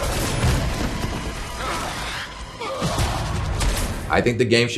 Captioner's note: intense music; grunting